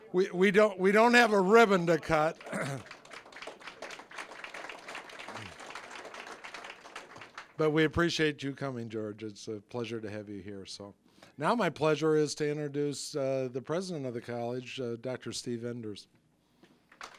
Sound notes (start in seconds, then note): 1.6 applause